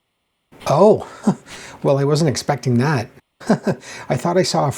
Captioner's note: chuckles